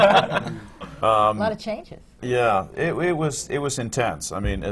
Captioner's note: laughter